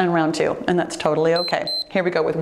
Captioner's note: timer beeps